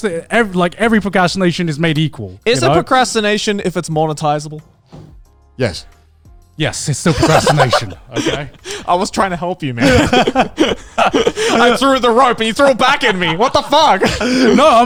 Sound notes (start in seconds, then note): 9.8 laughing